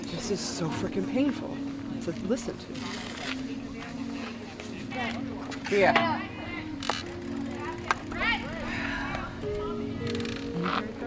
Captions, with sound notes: This is so freaking painful to listen to. (bike gears rattle)